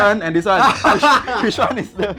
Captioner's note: laughter